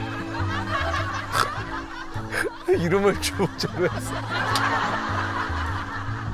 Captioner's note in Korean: 웃음소리